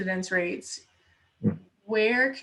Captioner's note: air whooshing